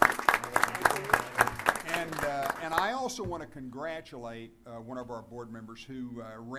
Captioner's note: applause